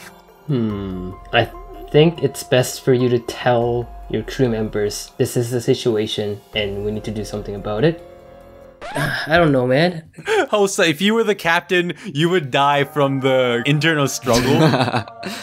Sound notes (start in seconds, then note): 8.6 sigh; 14.2 giggles